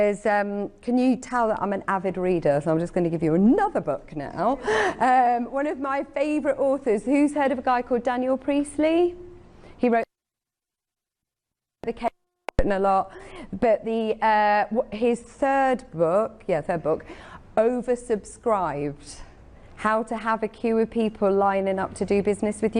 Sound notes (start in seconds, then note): 10.7 audio skipping